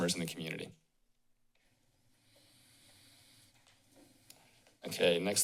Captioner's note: silence